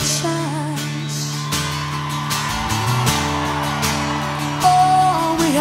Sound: crowd cheers

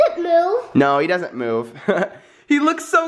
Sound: chuckles

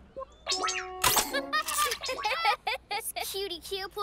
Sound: laughter

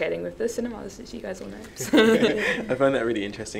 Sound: laughs

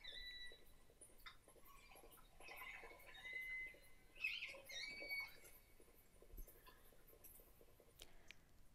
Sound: whale Sounds

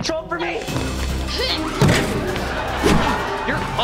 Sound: grunting

